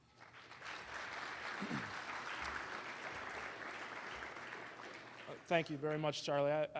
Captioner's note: applause